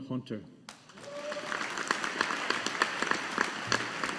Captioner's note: audience applauding